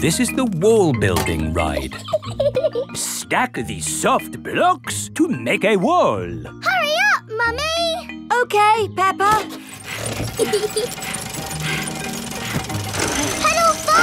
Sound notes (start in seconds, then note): 1.7 laughs; 9.8 mummy pig panting; 10.2 peppa laughing